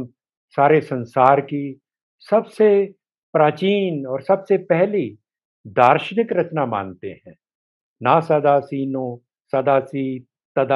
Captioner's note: panjabi language